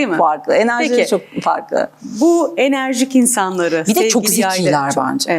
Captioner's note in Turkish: homurdanır